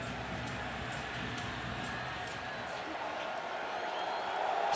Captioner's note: cheers